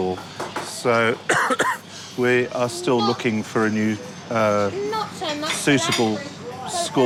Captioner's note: coughs